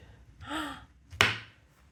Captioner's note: gasp